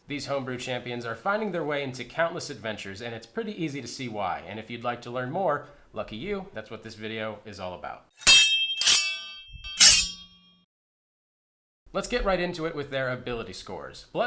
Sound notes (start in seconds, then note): 9.6 blade slicing